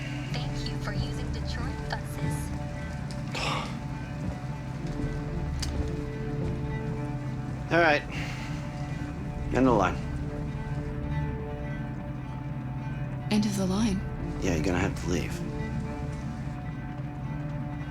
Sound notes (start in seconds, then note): 3.3 exasperated sigh